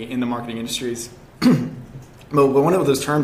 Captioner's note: coughs